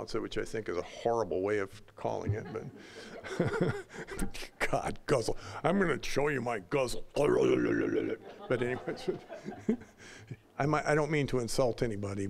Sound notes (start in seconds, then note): 2.2 all laughing; 7.2 deep, gutteral yapping; 7.3 all laughing